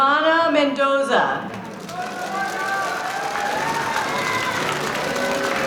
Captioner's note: audience cheering